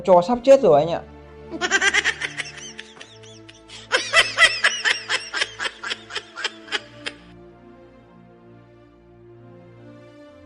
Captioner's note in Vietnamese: Tiếng cười